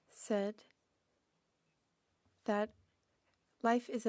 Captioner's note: speaking French